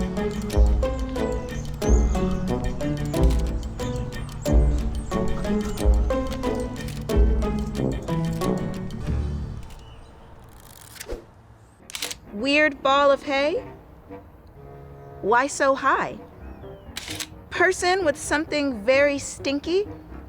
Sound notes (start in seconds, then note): 16.9 camera clicks